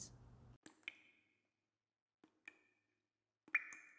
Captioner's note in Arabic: صنبور يقطر